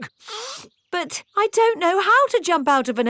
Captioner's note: sniffs